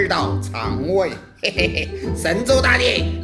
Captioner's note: laugh